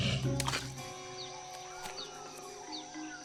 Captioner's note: hissing sound